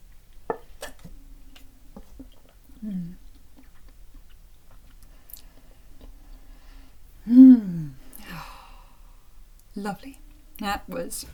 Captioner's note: sigh